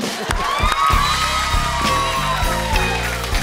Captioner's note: cheering and applause